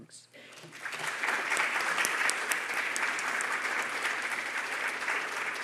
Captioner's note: audience applauding